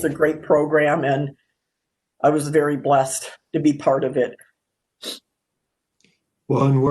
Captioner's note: sniffs